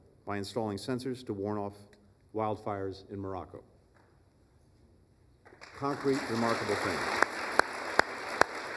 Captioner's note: applause